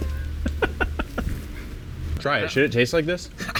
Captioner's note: laughs